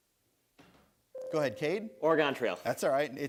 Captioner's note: bell rings